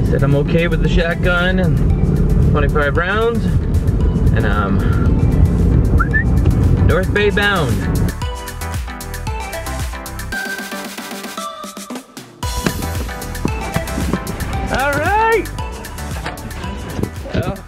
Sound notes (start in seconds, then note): 5.9 whistles